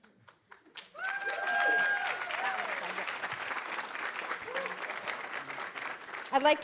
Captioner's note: audience applauding; audience cheering